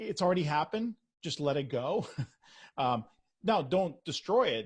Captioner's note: chuckles